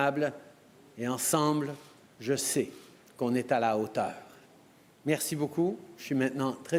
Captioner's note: speaking french